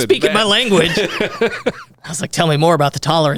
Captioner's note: laughing